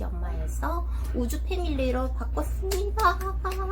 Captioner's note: clap! Clap! Clap!